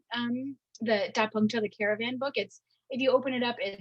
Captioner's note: speaking in Mandarin